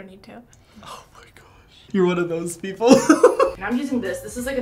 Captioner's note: laughing